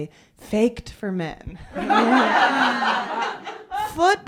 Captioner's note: laughter